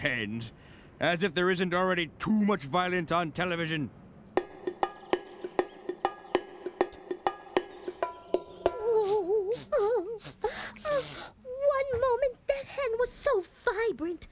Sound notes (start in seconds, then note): 8.6 both crying